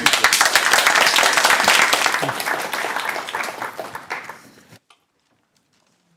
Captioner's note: applause